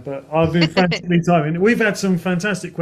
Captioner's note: chuckles